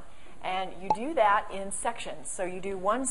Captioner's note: pop